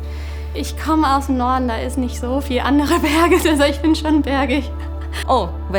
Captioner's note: laughs